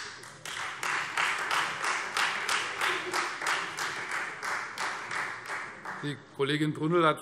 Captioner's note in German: Beifall Freie Demokraten